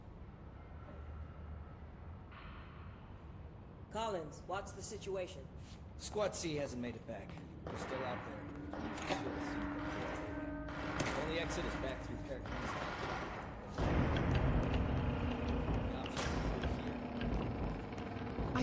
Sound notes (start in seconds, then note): 7.5 distant gunfire